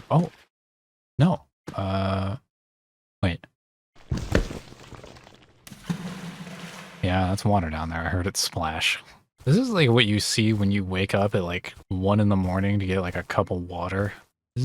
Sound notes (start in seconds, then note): 5.6 cavernous splash